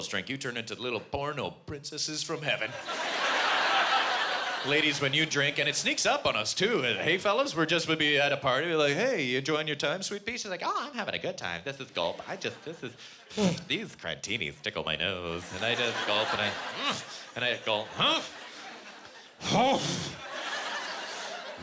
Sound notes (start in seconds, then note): 16.3 grunting